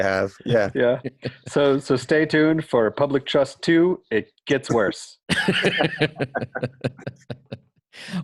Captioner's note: laughter